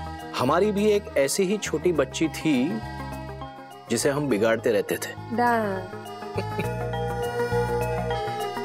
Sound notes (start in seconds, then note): 6.4 chuckling